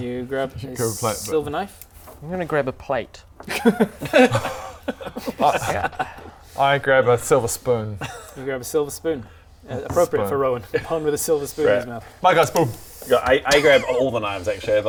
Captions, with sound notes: You grab a silver knife I'm gonna grab a plate *judgemental laughter* I grab a silver spoon you grab a silver spoon appropriate for Rowan, born with a silver spoon in his mouth I got a spoon Yeah I grab all the knives actually